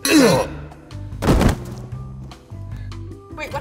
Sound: thud

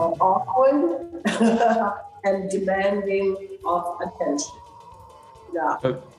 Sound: laughs

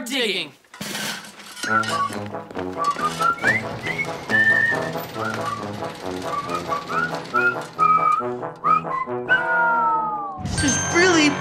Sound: whistling

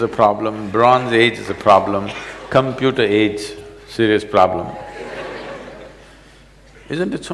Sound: laughter

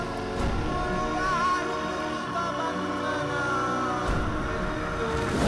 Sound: chant

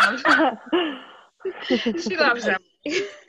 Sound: laughing

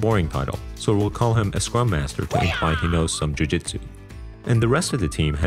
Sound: karate yell

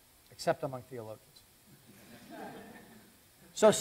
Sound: laughter

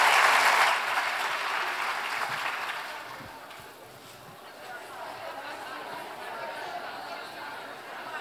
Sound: applause

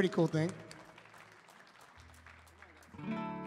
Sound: audience applauding; gentle music

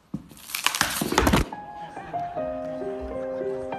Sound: onion crackling; body thudding; congregation reacting; gentle piano playing

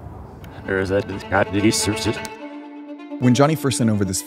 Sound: recording reverse echoing

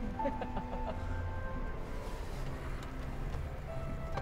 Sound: laughing

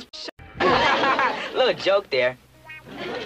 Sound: cute laugh

